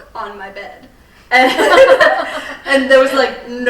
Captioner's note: all laughing